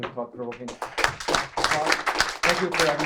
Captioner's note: applause